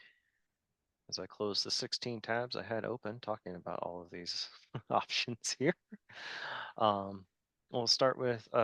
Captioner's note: chuckling